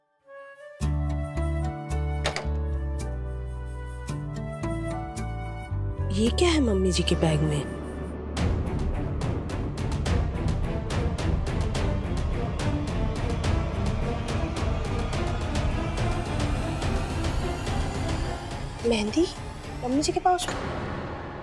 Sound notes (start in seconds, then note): 2.2 door opens; 8.4 pensive music playing